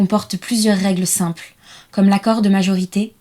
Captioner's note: in french